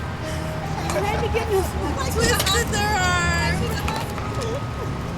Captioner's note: chuckles and chatter